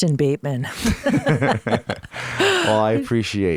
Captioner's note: both laughing